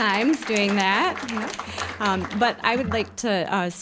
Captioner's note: applause